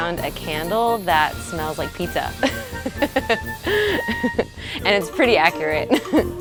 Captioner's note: giggling